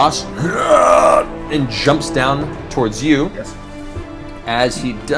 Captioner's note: groans